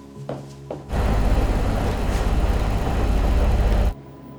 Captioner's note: machine rumbling